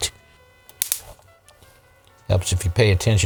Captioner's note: clicks